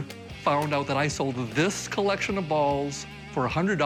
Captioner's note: none